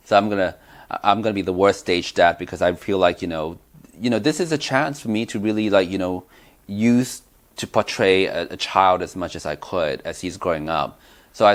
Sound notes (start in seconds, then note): none